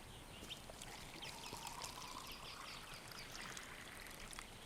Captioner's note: beer trickles